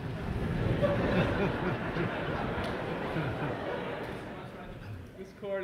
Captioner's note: laughter